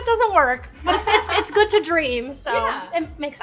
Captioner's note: laughing